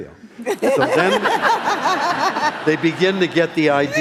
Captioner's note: laughing